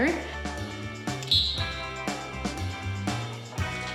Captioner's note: whistle chirps